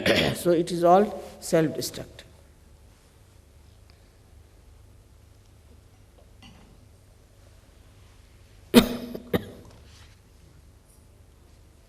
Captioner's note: Shri Mataji coughs